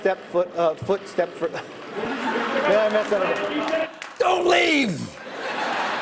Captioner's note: laughs